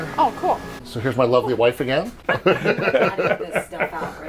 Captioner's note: laughs